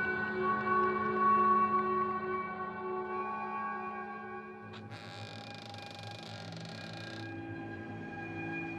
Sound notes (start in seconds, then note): 4.7 door creaking